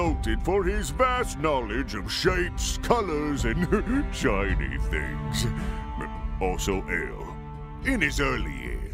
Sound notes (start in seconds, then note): 3.4 chuckle